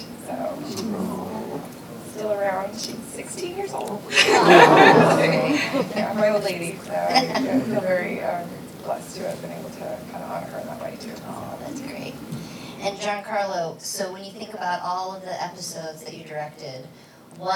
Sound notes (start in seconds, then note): 4.0 audience laughing